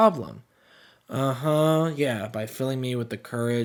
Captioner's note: sarcastically